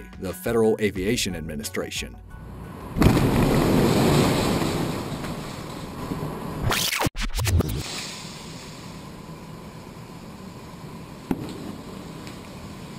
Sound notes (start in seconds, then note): 2.9 building exploding; 7.6 fire hissing